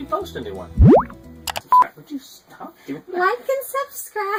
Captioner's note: click and beep